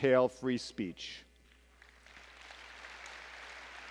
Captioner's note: applause